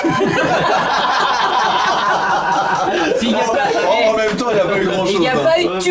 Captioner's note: laughs